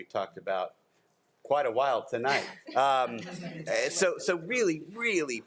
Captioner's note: group laughs